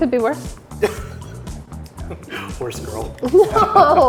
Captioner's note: laughs